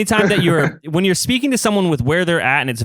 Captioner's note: laughs